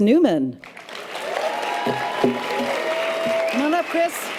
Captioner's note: audience applause and cheers